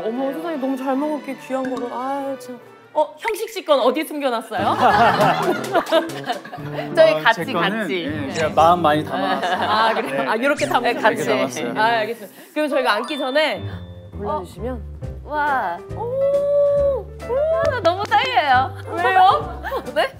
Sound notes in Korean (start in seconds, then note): 4.6 ㅋㅋ